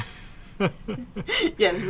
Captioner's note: laughs